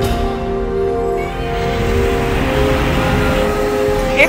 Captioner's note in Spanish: Rugido de animal gigante